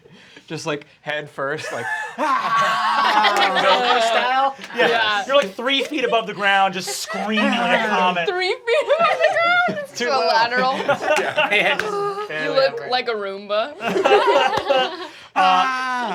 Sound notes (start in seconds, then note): 3.5 laughter; 11.7 they laugh; 13.8 laughter